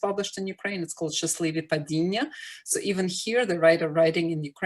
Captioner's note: ukrainian